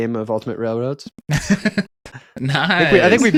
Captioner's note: laughing